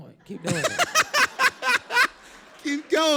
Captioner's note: laugh